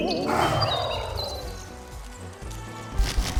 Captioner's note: roars